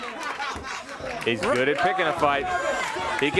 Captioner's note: crowd cheering